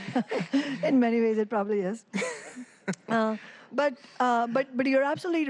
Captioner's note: laughter